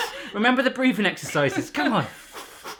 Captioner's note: laughing; lamaze breathing; swiftly exhaling